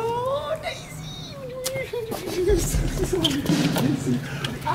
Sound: mumbles happily

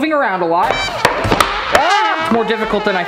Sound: comical sounds play; shrieks quietly

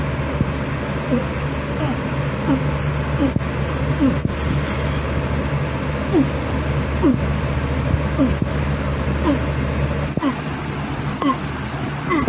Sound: begins retching

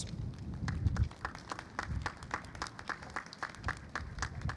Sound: clapping

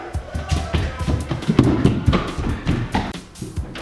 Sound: feet pounding

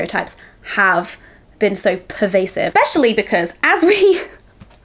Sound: laughing

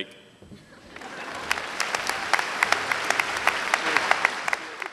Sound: applause

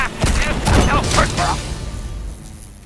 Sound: splat; inaudible exasperation; wasp buzzing

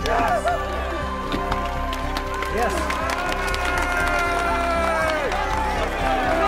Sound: crowd applauding; crowd cheering

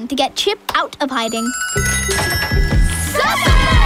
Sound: dinner bell ringing

